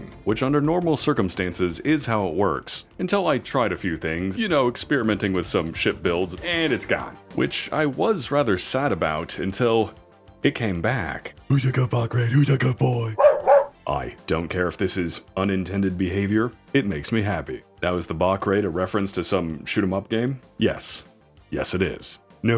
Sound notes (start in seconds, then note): 13.2 woof woof